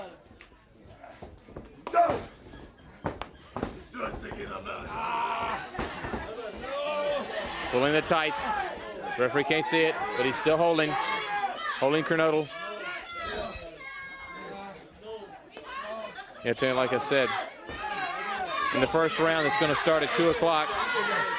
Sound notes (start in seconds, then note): 11.6 crowd chatter; 15.6 crowd chatter